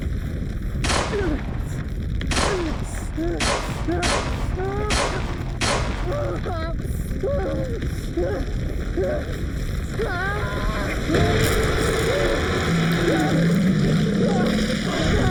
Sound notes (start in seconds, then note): 0.8 gun banging; 1.0 Jim grunting; 6.2 Jim panting; 10.0 Jim screaming; 11.1 shark roaring